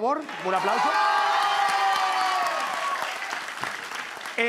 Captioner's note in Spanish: Público ovaciona